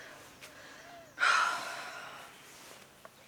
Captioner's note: sighs